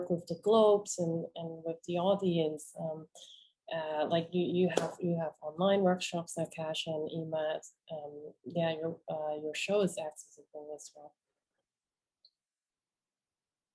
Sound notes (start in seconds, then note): none